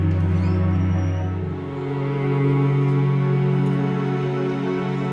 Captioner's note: door squeaks; soft somber music